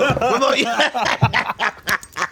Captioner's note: both laughing